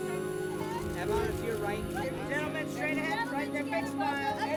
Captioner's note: people shouting